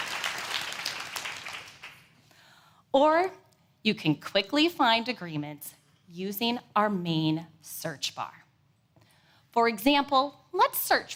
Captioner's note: applause